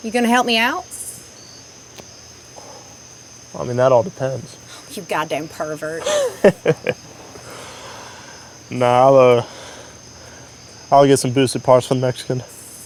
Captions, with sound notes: - You gonna help me out? - I mean, that all depends. - You goddamn pervert. (Tex chuckles) - Nah, I'll get some boosted parts from a Mexican.